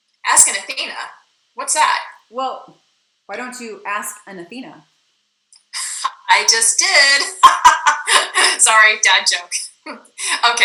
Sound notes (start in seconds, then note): 5.7 laughs